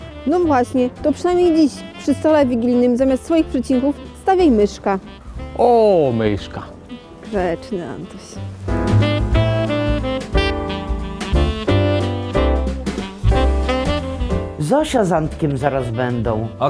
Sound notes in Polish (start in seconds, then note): none